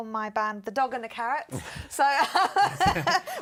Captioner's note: laughter